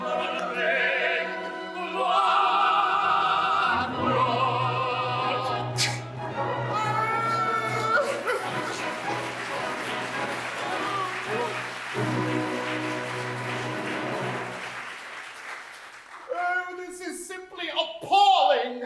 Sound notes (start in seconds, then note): 6.7 music & applause